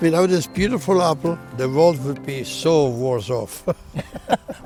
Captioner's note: laughs